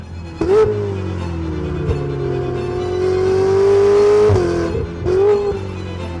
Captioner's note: car engine revving; classical music